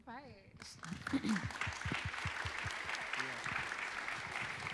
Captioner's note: applause